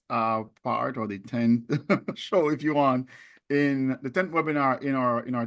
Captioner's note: laughs